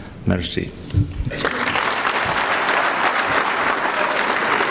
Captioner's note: clapping